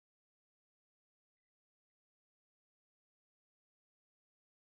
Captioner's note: none